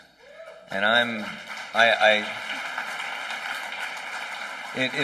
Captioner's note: applause